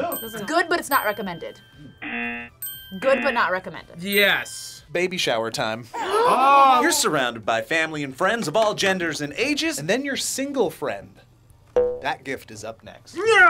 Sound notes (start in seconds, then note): 2.0 bell rings; 2.0 buzzer rings; 5.9 gasps